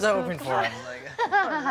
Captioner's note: laughing